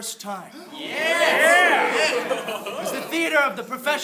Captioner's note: cheers